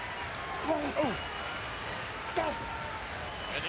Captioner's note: applause